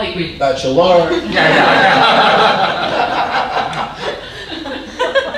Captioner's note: audience laughing